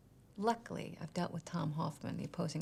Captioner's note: none